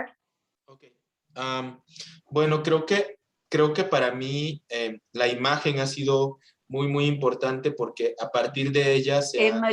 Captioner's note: non-english speech